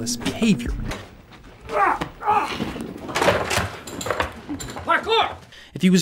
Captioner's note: shouting